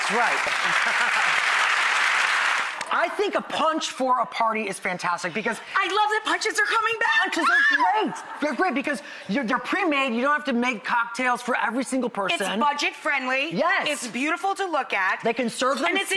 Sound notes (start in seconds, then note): 0.0 audience applause; 7.1 squeal